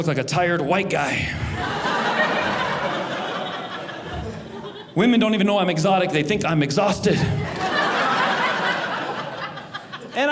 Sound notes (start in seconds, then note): 1.3 audience laughing; 7.1 audience laughing